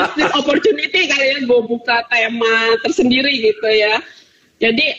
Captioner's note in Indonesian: Tertawa